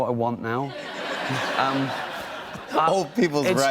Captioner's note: laughter